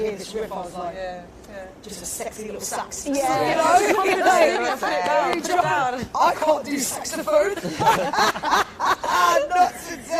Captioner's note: laughter